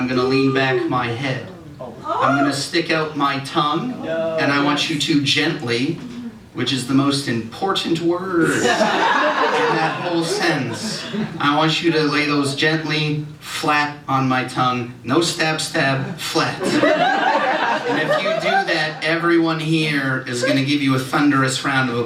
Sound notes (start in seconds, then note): 8.6 laughter